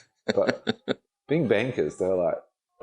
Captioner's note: laughing